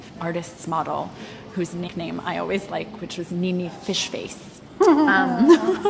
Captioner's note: laughing